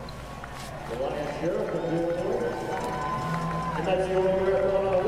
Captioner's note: chatter